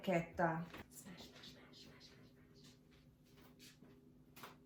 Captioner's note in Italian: sussurrando